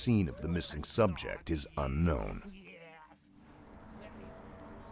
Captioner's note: voiceover